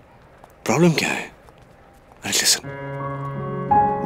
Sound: none

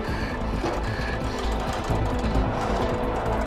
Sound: breathing heavily

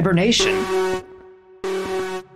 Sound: alarm blaring!!!

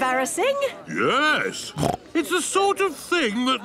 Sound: snorts

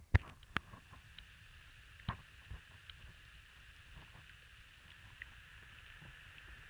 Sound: sound of the Ocean

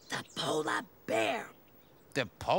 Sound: whispers

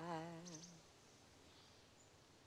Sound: birds chirping

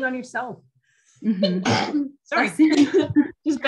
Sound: sneezing

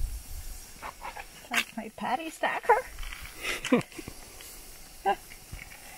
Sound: chuckles

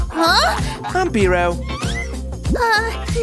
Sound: barks

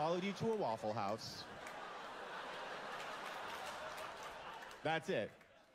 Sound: laughter

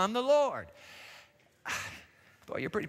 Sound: sighs

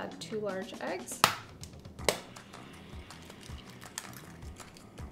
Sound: egg cracking

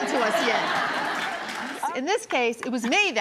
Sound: audience laughs

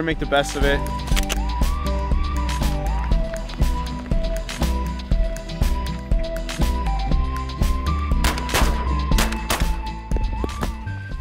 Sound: shooting

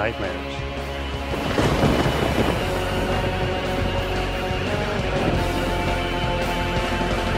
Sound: energetic eerie music; thunder cracking

